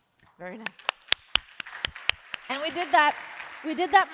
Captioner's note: applause